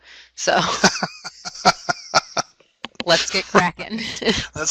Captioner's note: laughter